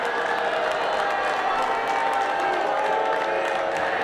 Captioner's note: crowd cheering